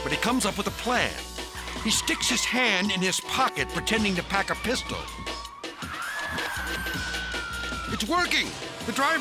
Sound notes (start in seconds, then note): 6.1 tires screech